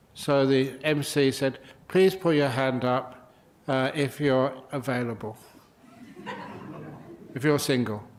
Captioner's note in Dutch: lachen